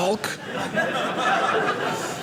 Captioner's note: audience laughing